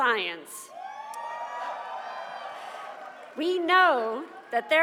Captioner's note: cheers and applause